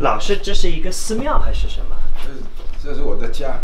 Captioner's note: speaks Chinese